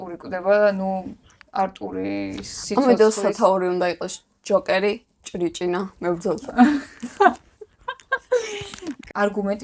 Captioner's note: laughing